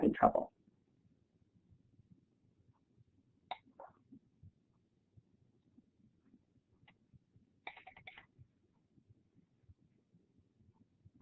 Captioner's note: silence